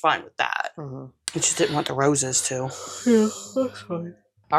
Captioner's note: yawning